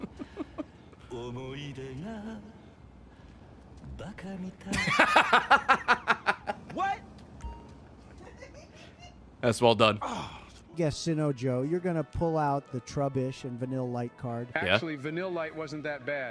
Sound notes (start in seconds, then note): 8.1 laughs